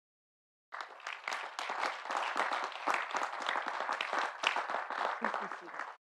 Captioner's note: audience applauding; audience cheering